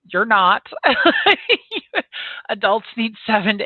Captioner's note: laughs